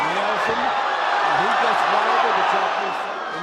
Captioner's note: cheers